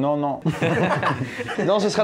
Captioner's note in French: rires